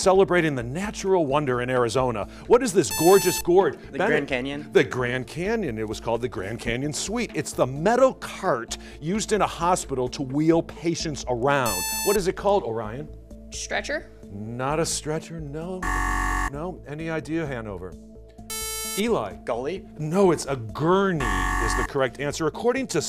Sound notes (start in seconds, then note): 15.8 buzzer